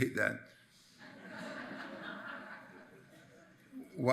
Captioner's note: attendees laughs